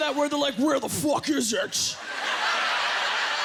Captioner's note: laughter